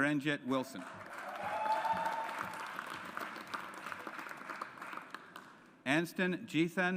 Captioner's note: audience applauds